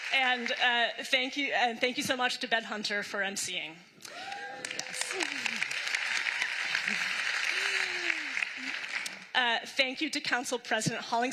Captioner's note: applause